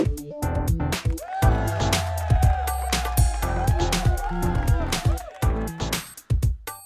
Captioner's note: upbeat music; crowd cheering and applauding